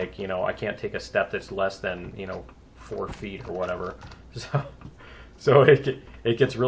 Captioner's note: laughs